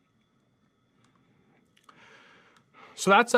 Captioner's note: computer mouse clicking